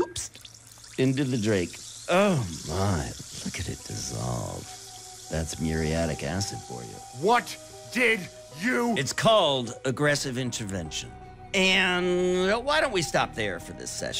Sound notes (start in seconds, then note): 1.7 acid fizzing